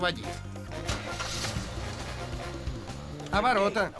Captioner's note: engine turns over